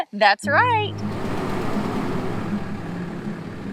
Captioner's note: RV engine roaring; gentle music